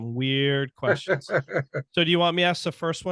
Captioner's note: laughing